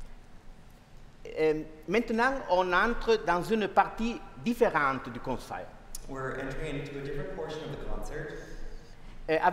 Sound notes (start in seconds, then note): 1.7 speaking french